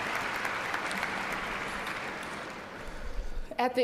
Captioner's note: applause